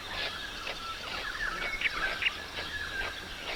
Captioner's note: birds calls